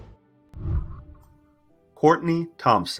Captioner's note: whooshing